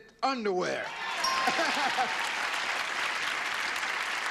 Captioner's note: cheering